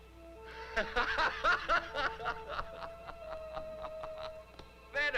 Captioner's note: laughs